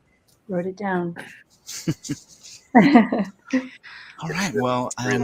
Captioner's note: chuckling